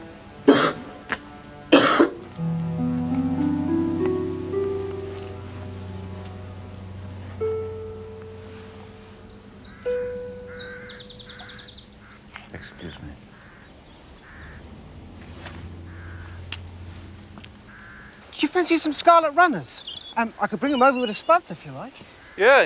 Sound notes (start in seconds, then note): 1.7 coughing; 2.8 ascending piano scale; 9.8 birds chirping; 12.8 whispers